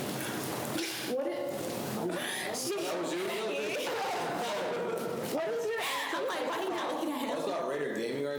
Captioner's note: student laugh